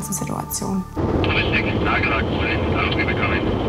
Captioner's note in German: Funkspruch